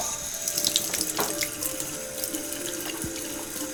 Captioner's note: water running